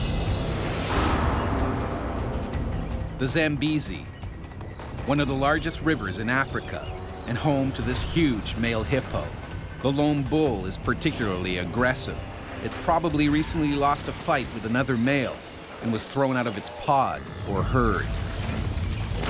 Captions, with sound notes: - [Voiceover] The Zambezi, one of the largest rivers in Africa, and home to this huge male hippo. The lone bull is particularly aggressive. It probably recently lost a fight with another male. And was thrown out of its pod or herd.